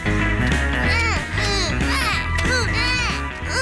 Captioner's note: both grunting